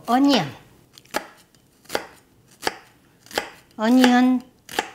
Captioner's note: chopping